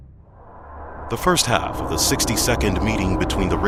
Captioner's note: voiceover